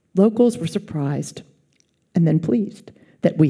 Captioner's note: none